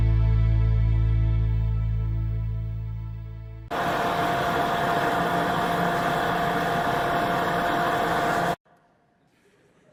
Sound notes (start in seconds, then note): 3.7 loud whirring